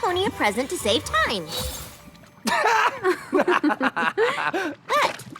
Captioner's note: both laughing